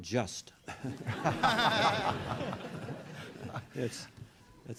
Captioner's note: laughter